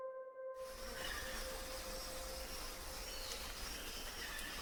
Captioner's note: birds chirping